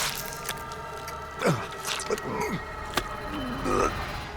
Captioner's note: grunting, retching